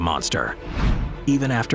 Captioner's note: screen whooshing